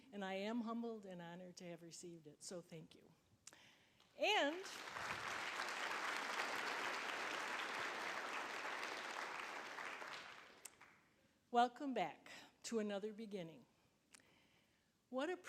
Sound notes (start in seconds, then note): 7.0 applause